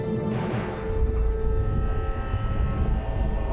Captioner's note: thud sound